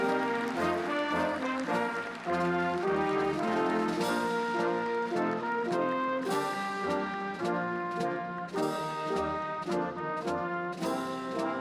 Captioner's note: applause